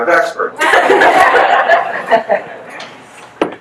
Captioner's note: guests laugh